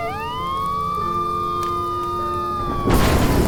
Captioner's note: gentle music; police sirens blaring; house exploding